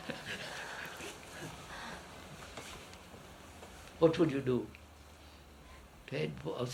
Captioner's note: laughs